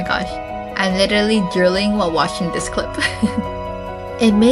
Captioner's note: haha